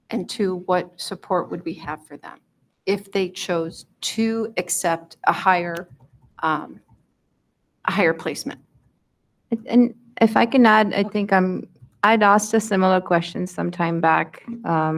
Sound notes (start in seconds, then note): none